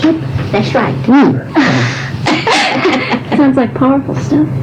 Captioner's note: laughter